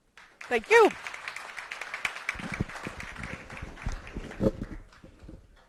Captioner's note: audience applauding